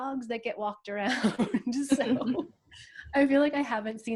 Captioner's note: laughs